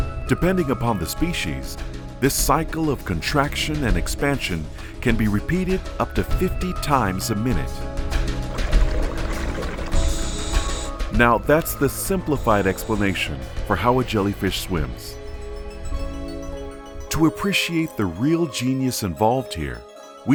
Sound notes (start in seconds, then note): 8.4 water bubbling; 8.5 air hissing